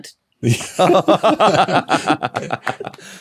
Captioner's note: group giggling